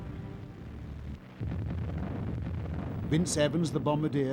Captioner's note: bomb explosions